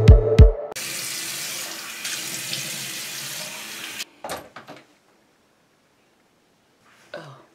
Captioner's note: clear throat